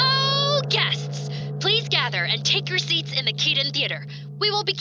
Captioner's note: intercom